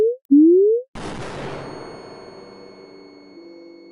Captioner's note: flashbang